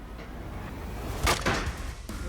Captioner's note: clank